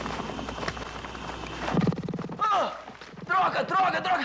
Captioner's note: growling